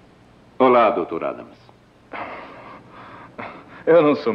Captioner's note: chuckles